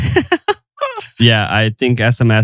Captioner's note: laughs